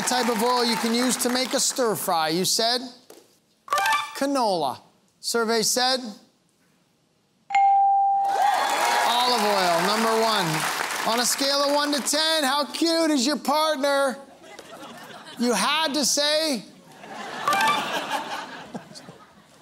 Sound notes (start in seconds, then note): 8.2 cheering and applause; 16.8 laughter